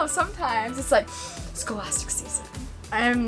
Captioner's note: sniffs